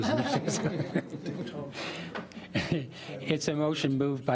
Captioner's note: laughing